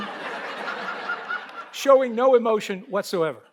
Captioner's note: audience laughs